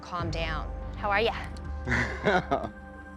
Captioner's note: chuckles